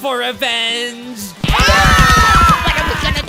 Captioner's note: Are You Okay screams